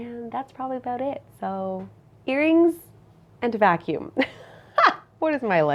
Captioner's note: laughs